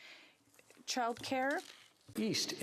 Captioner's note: speaking French